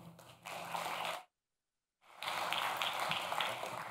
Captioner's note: clapping